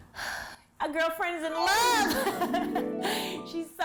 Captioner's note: laughs